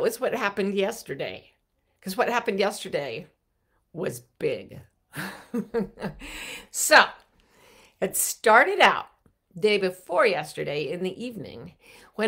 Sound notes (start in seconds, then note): 5.2 chuckling